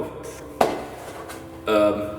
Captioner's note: sound of Pizzabox full of rats